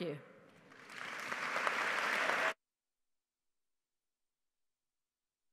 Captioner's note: audience applauding